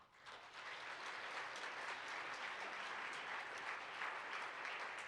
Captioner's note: participants applaud